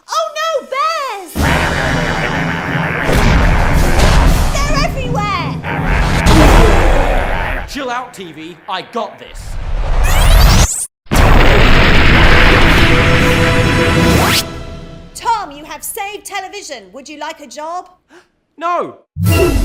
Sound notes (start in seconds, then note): 1.4 bears growling; 11.1 lasers booming